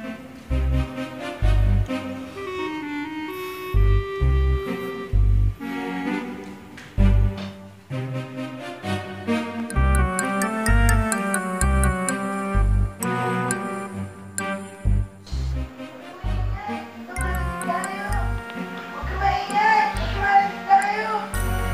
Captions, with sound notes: [kid over recording] Don't make noise; they might hear us. Don't make noise; they might hear us.